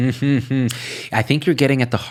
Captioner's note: laughing